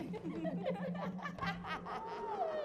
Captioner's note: women laughing